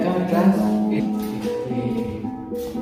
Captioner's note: en Guarani